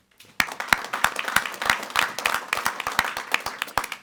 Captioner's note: group clapping